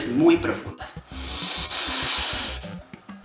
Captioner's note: inhales